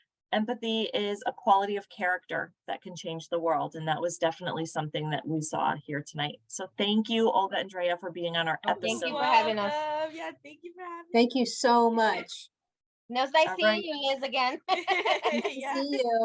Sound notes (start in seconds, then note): 14.4 laughter